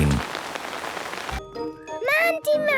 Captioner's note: downpouring